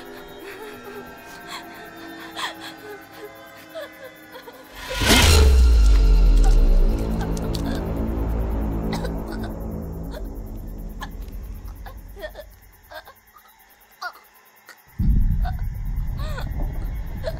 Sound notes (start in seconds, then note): 5.0 Allie chokes; 5.0 ax thuds; 15.0 suspenseful music